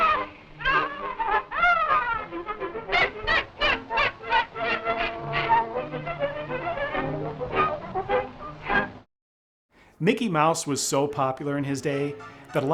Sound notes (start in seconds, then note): 3.1 Mickey laughs cheerfully